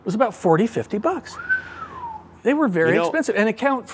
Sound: whistles

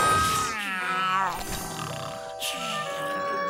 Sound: snoring

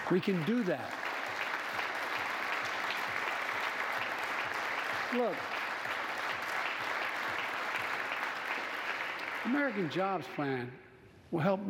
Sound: applause

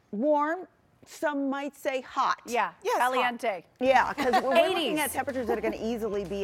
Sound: laughter

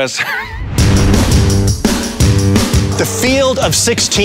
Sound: upbeat pop music; laughs

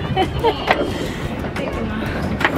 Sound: chuckled

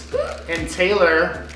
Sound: gasping

